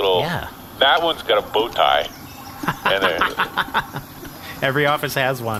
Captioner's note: laughter